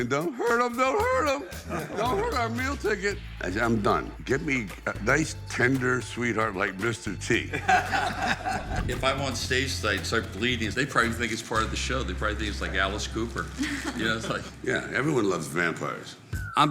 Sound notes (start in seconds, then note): 7.4 laughing